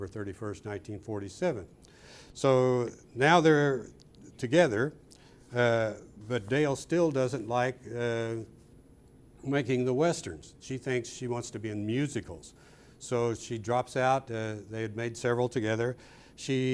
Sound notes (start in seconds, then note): none